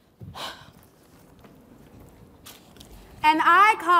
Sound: performer sighs

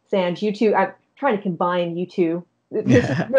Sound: chuckling

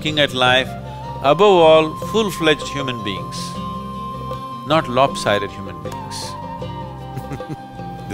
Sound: laughs

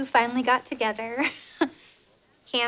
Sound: chuckles

